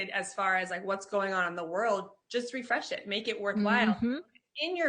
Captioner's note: none